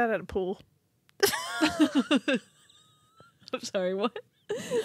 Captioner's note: laughing